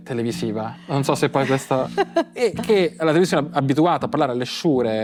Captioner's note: laugh